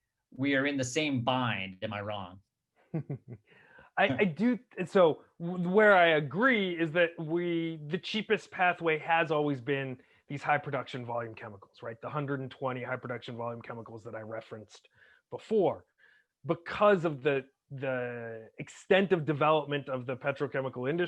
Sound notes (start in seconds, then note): 2.8 chuckles